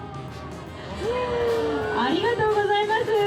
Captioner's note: cheers